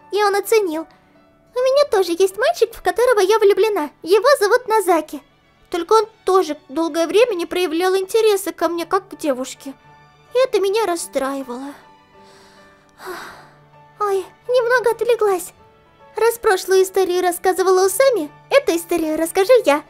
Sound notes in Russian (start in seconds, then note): 12.1 грустно вздыхала